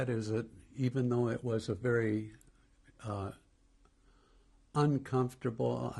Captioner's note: pauses for 3 seconds